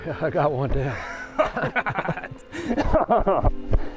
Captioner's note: laughing